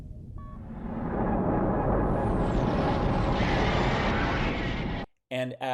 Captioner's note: special Effects Sound